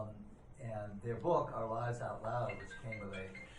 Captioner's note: phone ringing